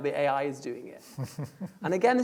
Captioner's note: laughing